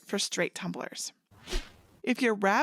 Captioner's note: air whoosh